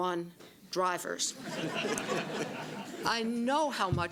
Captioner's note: laughter